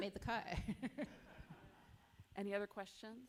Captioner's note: chuckle